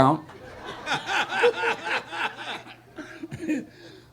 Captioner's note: audience laughing